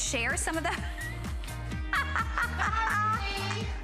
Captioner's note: laughter